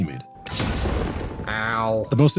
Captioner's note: A friendly explosion detonates